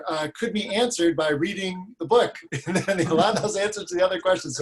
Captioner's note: laughs